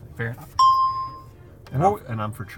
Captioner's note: bell rings